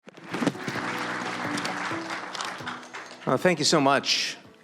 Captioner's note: audience applauds